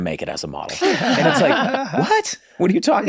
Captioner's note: laughs